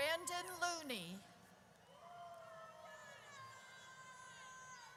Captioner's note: audience cheers